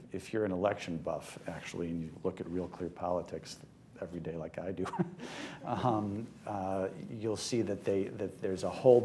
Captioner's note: laughs